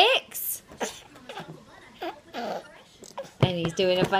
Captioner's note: grunting